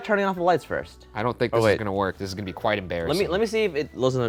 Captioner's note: none